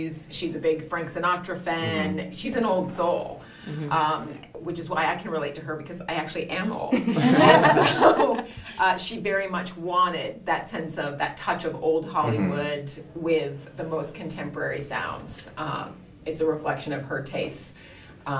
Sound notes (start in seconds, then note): 6.9 all laughing